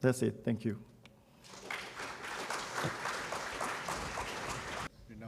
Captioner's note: applause